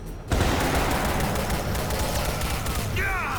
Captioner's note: gun firing